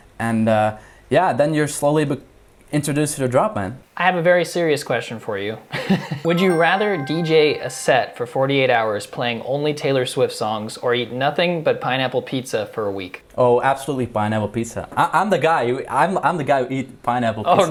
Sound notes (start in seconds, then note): 5.6 dramatic laughs; 17.1 chuckles